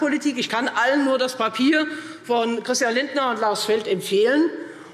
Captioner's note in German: none